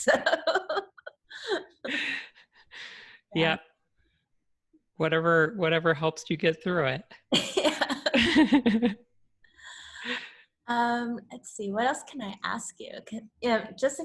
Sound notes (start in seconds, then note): 0.1 laughs; 7.4 chuckles